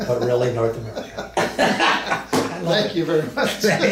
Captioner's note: both men laugh